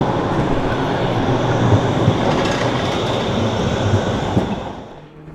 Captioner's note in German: Straßenbahn-Geräusche